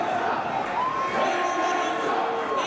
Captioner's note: crowd cheering